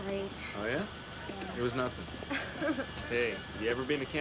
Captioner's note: laughs